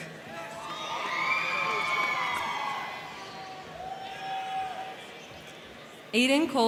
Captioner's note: crowd cheering; crowd clapping